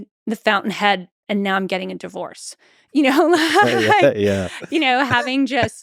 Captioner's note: chuckles